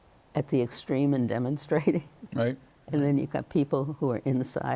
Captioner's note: chuckles